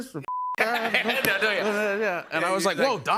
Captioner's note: laughs